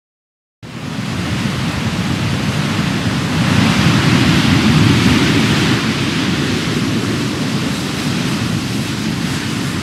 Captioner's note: sound of crashing waves